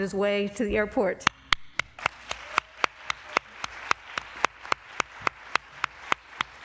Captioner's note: applause